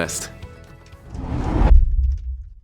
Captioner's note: whooshing sound